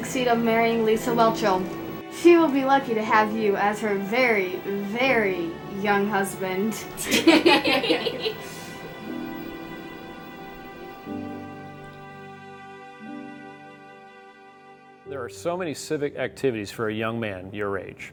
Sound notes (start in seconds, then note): 7.0 kids laugh